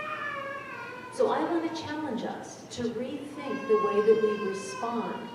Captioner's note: baby cries in audience; baby crying